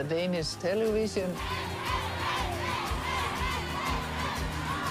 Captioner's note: chanting continues